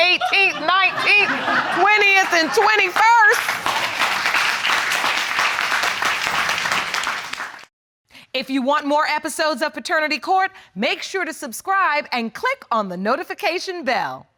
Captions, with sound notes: on the 18th, 19th, 20th and 21st. (AUDIENCE APPLAUDS) If you want more episodes of Paternity Court Make sure to subscribe and click on the notification bell.